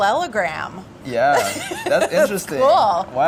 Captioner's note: laughing